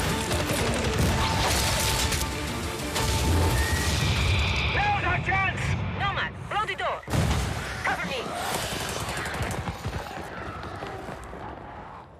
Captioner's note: sound of gunfire